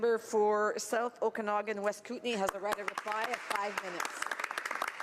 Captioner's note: speaking in french